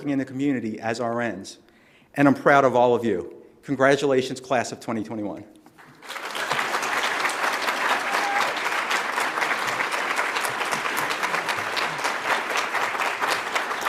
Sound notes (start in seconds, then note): 5.8 audience applauds; 6.0 audience cheers